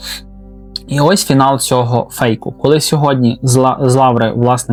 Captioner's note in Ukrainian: сопіння